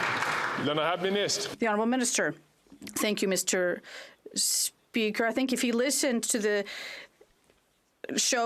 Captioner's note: some Applause